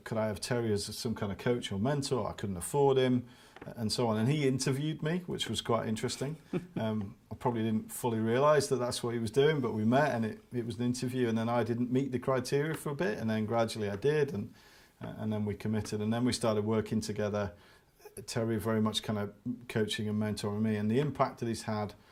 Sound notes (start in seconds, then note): 6.4 laughs